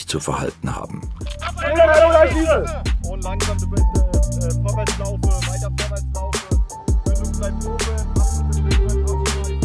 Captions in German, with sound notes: wie sie sich zu verhalten haben. (Laute Rufe) Langsam bitte vorwärts laufen. Weiter vorwärts laufen. (Spannungsvolle Musik)